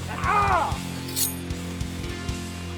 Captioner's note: knife unsheathing; dramatic music